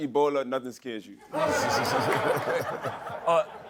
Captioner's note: laughter